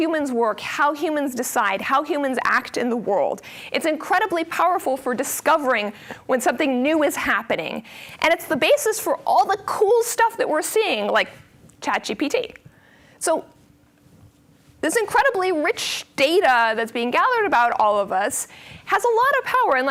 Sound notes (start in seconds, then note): none